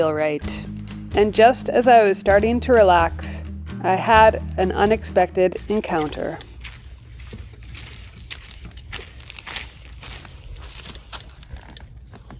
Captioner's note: footsteps